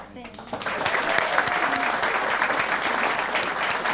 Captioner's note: applause